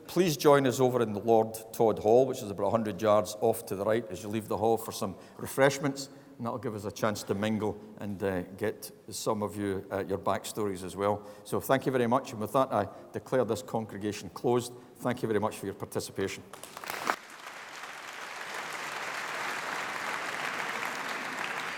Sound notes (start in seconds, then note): 16.5 applause